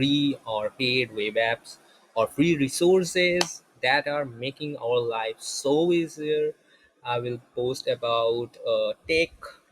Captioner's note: clap